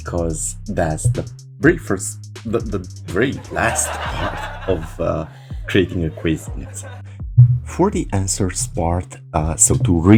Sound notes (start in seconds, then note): 3.1 LOL in the background